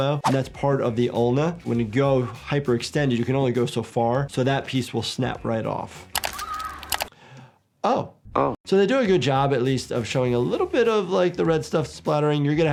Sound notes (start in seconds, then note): 6.2 woman screaming; 6.8 computer mouse clicks